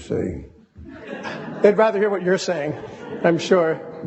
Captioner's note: audience laughing